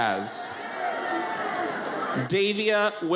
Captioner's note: audience cheers